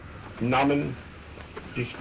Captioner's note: speaking in German